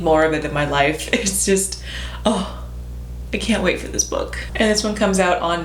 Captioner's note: dramatic sigh